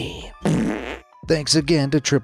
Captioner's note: fart sfx rumbles